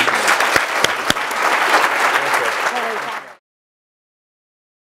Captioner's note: audience applauding